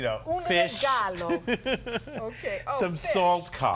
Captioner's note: laughter